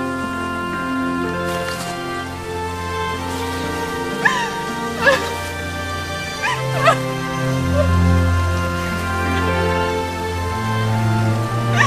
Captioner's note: footsteps Approaching